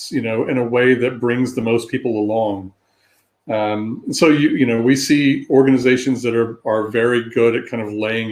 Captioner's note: erm